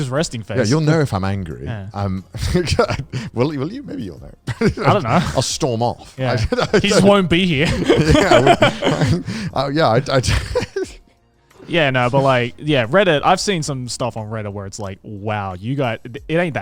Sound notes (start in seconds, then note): 2.4 laughs; 8.0 laughs; 10.7 laughs